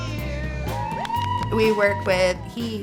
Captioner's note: all cheering